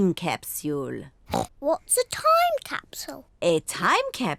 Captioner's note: oinks